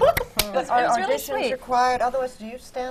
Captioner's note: claps in delight